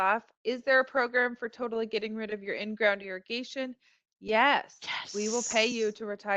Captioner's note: whispers